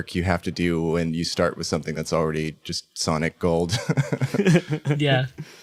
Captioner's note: laughs